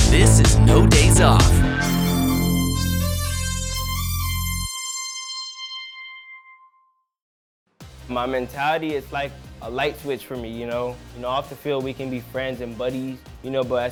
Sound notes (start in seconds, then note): 1.3 electronic horn blows